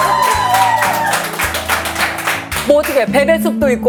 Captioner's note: just laughing